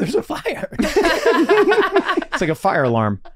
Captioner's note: group laughing